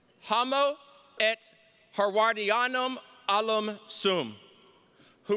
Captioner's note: speaks in foreign language